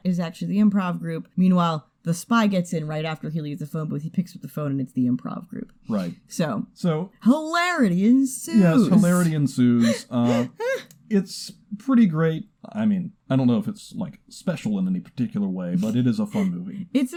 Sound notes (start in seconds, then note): 9.8 laughs